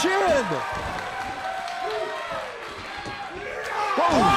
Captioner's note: crowd cheering